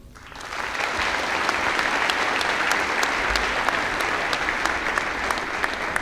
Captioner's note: applause